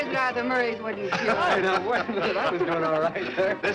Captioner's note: laughing